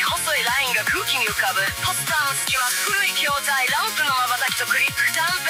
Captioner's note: between posters, old cabinets, flickers and clicks